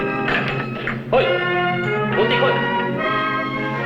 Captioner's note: non-english speech